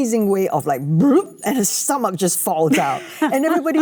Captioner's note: Cate laughs